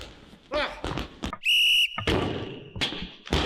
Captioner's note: whistle blows